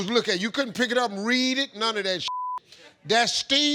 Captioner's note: beep